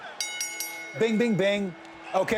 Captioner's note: bell dings